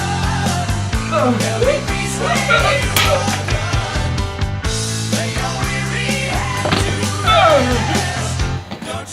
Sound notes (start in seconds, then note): 0.9 gasping